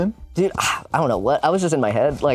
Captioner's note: sighs